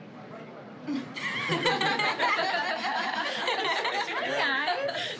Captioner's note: crowd laughing